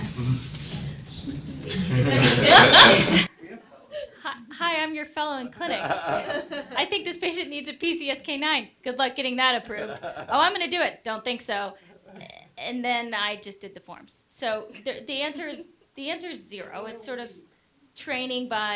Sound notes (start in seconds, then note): 5.6 laughter